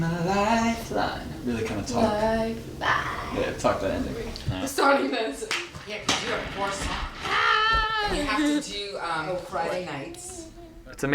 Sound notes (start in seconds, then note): 7.3 laughs